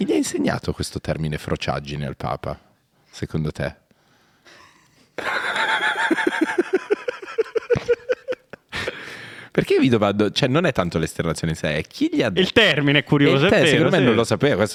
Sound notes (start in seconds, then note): 5.1 laughing